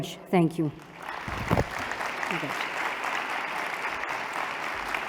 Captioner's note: non-english; applause